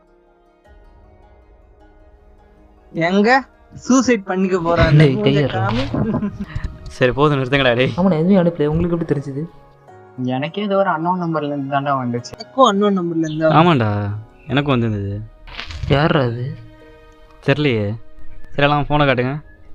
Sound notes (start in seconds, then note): 4.9 laughing